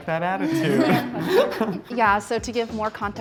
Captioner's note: all laughing